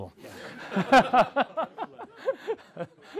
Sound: laugh

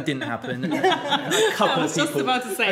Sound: group laughing

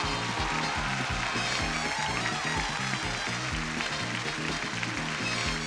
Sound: audience cheering; exciting music

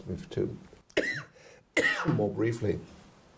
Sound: coughs

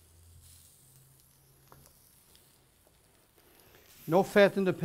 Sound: sizzles

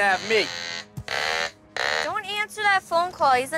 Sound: duck phone ringing

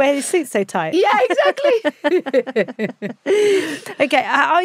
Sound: both laughing

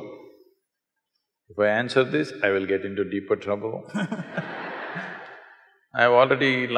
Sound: laughter

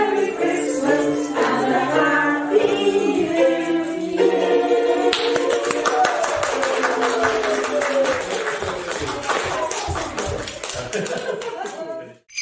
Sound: applause

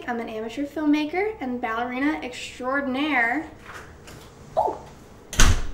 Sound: door opens and shuts

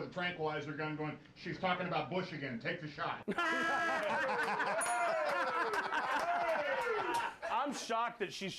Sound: bell rings; laughter

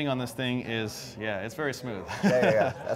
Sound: laughs

